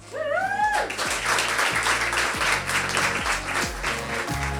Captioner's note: audience cheering and applauding; funky music